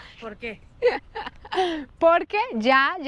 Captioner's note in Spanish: Risas